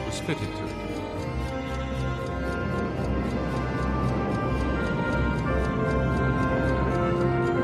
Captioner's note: clock ticking; dramatic music